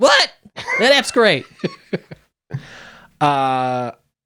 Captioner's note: laughing